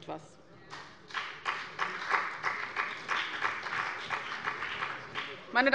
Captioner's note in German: Beifall bei dem BÜNDNIS 90/DIE GRÜNEN und bei Abgeordneten der CDU